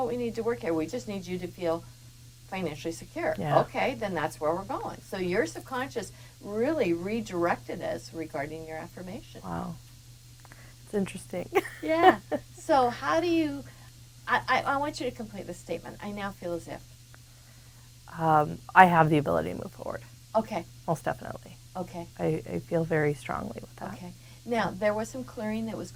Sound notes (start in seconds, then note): 11.5 laughs